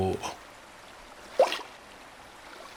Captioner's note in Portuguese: Ruído aquático